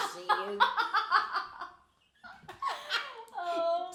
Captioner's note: laughing